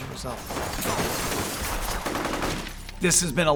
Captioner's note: glass shattering